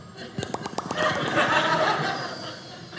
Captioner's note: audience laughing